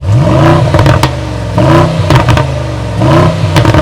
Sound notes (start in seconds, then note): 0.0 engine revving